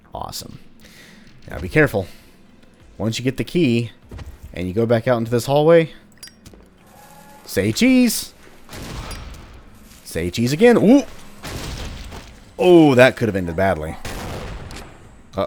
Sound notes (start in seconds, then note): 8.7 kaboom; 11.4 kaboom